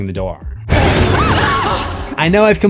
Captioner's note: screams